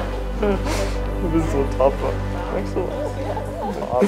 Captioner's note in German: schluchzt